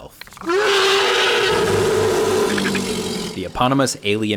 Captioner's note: Predator roaring